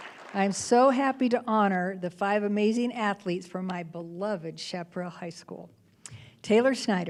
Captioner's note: applause